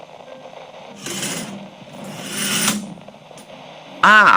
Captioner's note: Alastor opens the curtains in his room fx